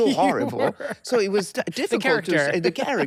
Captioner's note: laughs